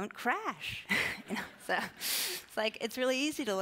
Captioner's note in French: rires